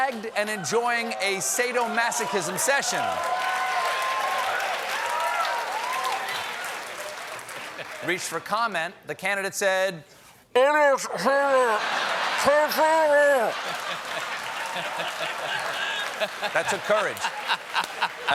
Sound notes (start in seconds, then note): 7.7 laughter; 8.7 applause